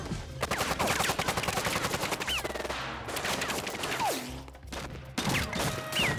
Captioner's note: dramatic music; guns firing